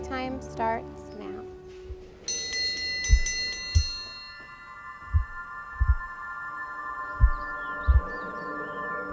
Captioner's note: bell ringing